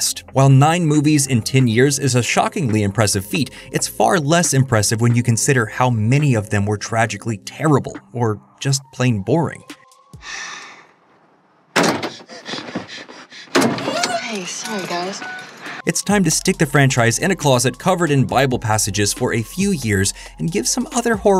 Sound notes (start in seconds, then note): 10.2 sighing; 12.0 labored breathing